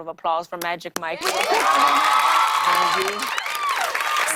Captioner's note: cheers and applause